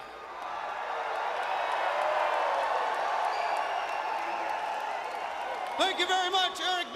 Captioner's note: crowd cheering